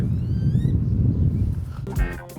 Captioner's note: birds chirping; upbeat funk music